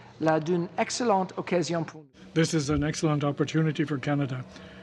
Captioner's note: speaking French